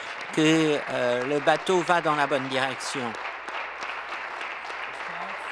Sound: applause

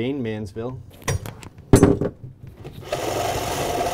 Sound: object drops; drill

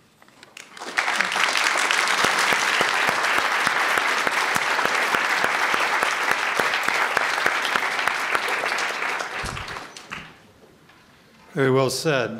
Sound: applause

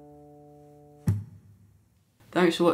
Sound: tap

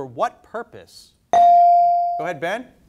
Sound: bell dings

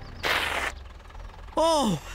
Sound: skidding

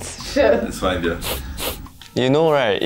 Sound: sniffs

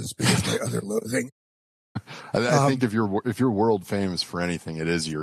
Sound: laughs

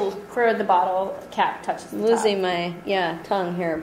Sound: voiceover

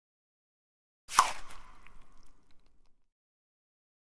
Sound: sound of digging

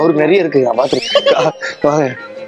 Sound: laughs

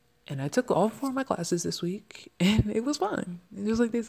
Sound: laughs

